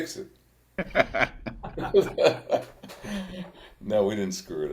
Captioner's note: participants laugh